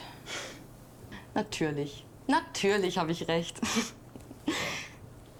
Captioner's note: laughter